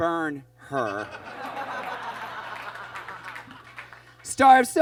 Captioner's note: audience laughs